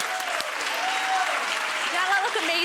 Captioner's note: audience cheering and applauding